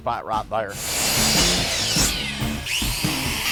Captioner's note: power grinder